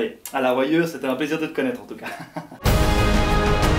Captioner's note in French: rire nerveux; musique épique